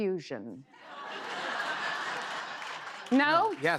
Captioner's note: laughter